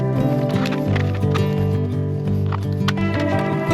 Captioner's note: sizzling